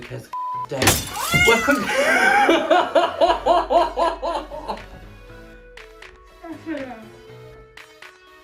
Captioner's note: sound of cat meowing, and a crashing window noise